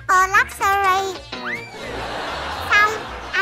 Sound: laughing

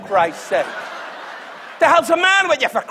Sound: audience laughs

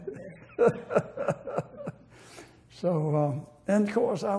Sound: laughter

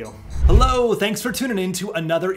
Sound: air whooshing

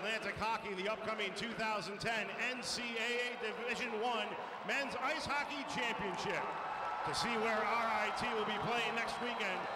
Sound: cheering

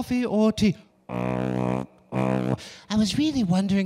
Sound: making tuba noise

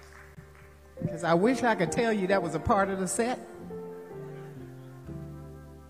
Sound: applause

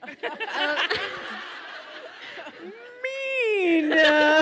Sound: all laugh

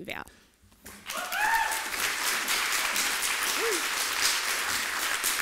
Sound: applause

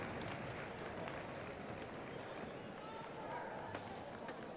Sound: indistinct chatters

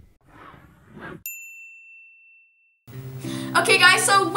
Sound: bell rings

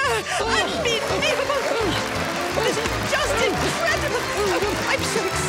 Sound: audience cheers

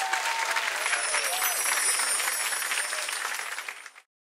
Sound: chiming

